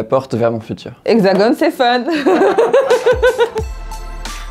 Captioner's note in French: rires